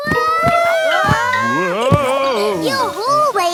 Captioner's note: all yelling